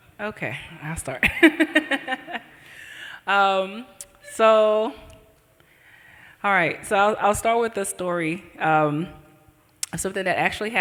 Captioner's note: laughs